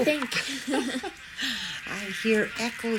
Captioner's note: laughs